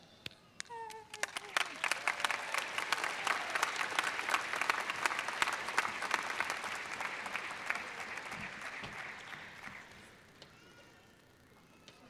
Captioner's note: audience cheers